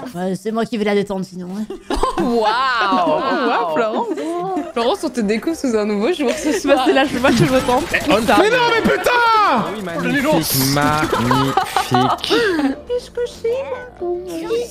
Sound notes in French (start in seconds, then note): 6.5 brouhaha